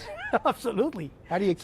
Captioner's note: laughter